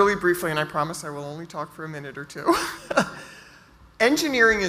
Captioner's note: laughs